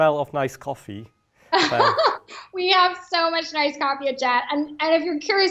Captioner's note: laughs